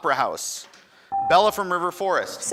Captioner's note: buzzer dings